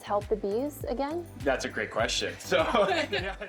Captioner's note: chuckles